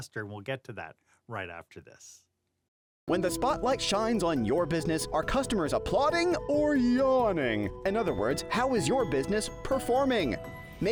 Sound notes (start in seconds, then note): 2.9 voiceover